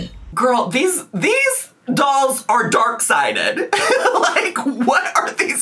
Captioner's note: laughs